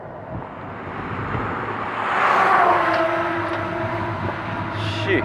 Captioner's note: vehicle passing close